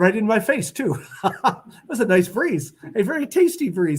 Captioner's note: laughter